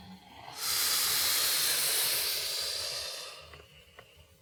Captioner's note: inhaling sharply